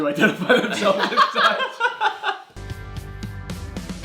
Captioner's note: laughs; upbeat music